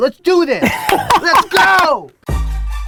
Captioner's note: Gary laughs; hip hop music